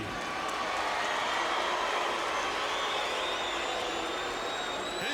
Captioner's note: audience jeering